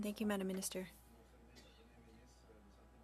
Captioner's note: speaking French